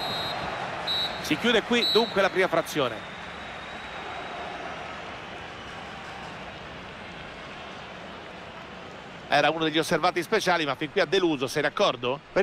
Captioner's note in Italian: Applauso